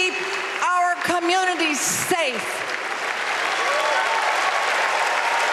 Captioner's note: applause